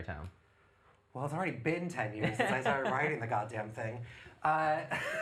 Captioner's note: laughs